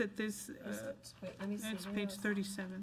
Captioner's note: overlapping chattering